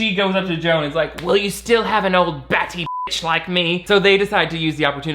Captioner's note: beep